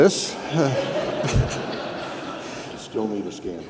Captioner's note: audience laughing